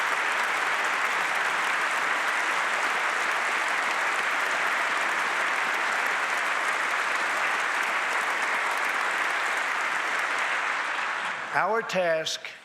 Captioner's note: applause